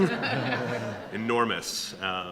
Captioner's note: audience laughing